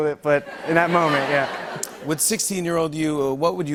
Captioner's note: laughter